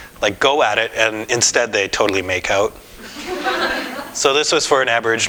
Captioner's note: audience: Laughter